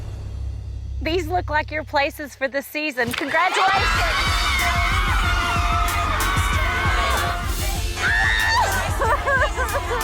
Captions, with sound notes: These look like your places for the season. Congratulations! (ladies cheering loudly)